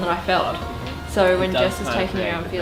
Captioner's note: people chattering